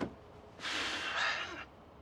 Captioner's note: Nash sighing